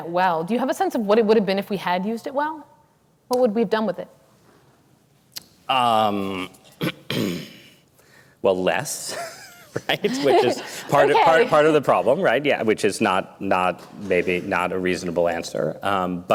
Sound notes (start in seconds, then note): 9.2 laughs